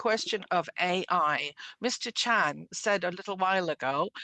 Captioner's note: speaking French